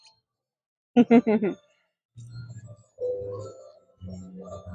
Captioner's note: chuckling